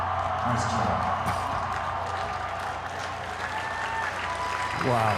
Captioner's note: audience applauding; audience cheering